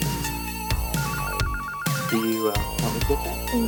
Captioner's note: phone rings